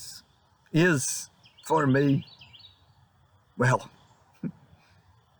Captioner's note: chuckles